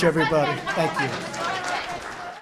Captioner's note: applause